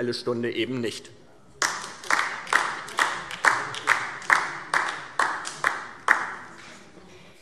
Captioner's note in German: Beifall DIE LINKE